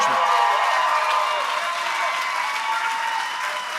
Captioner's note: applause